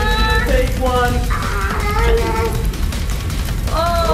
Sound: lava monster growls

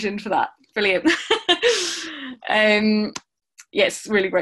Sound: laughing

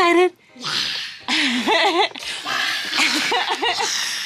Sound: laughing

